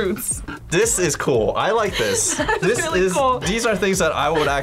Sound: laughs

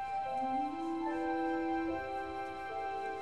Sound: train whistle

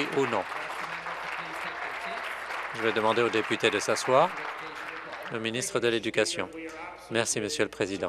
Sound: applause

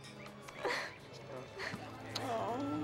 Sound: sobbing

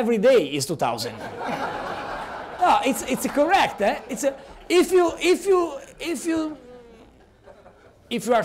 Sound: laughter

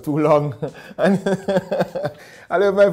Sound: laughing

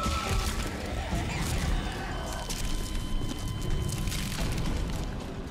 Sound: pulse flatlining

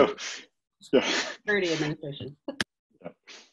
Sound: murmurs

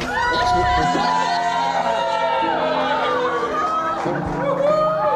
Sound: crowd cheering

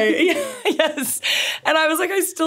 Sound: laughs

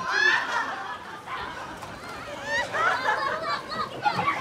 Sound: distant parents laugh

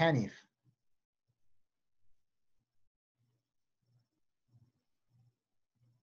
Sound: speaking in foreign language

